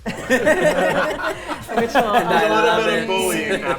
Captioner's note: players laughing